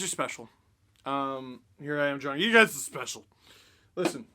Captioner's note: none